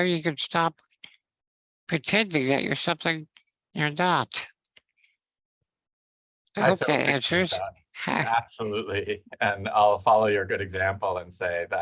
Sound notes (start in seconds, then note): 7.6 speaking faintly; 8.3 chuckles